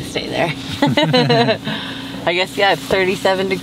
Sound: laughing

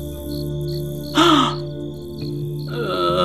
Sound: gasp

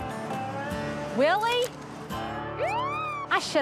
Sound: siren

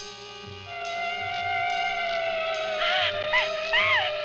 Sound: dramatic instrumental music; siren ringing; yelling

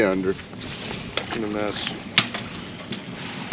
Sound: splashing

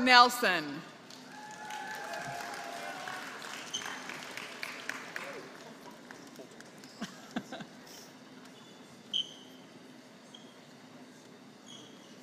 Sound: applause

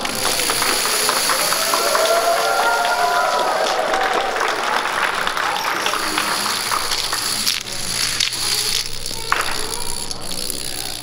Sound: applause

